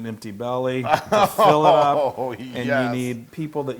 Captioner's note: laugh